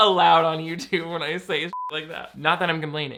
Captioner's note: beep